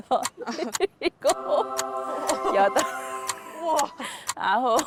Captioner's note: bright sound effect